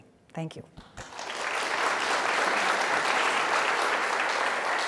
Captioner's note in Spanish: applause